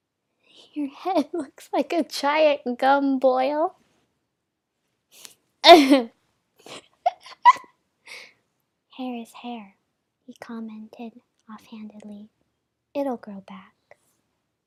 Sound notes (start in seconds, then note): 7.0 laughing